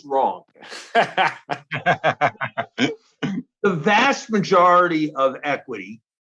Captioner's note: laugh